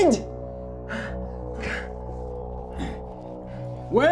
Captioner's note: breathing heavily